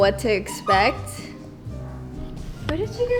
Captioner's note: squeak